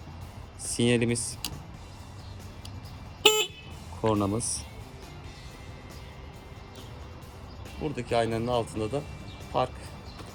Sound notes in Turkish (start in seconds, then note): 3.2 korna sesi